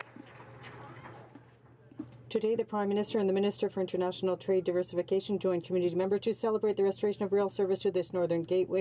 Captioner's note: some Applause